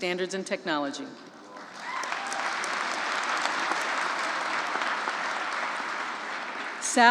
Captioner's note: applause